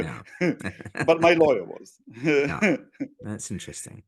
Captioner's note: laugh